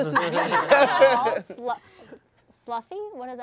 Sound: all laughing

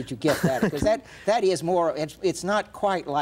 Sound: Edward laughs

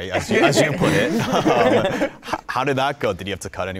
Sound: participants laughing

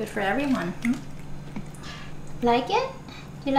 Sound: Fred chewing

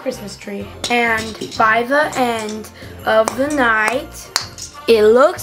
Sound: plastic thwacking

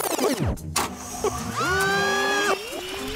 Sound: screaming

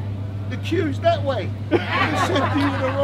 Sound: people erupt into laughter

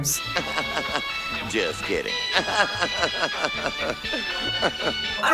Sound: more snickering; Jim Varney snickers

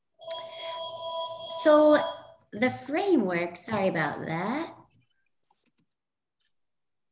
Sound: phone ringing

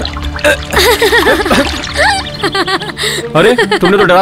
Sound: laughs

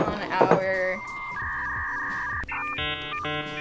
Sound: buffer whirring

